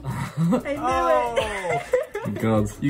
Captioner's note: laughs